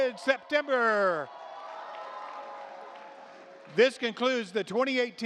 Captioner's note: audience cheers